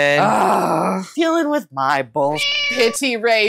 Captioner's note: meow